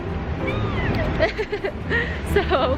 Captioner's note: squeals; laughs